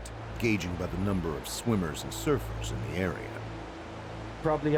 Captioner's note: voiceover